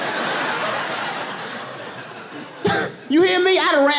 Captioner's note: chuckles